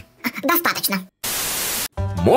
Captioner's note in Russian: помехи